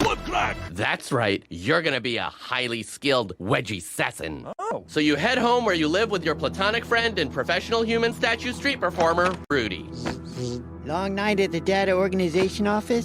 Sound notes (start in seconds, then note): 9.0 whirring sounds